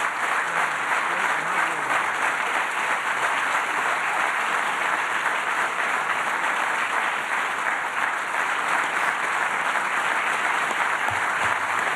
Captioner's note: applause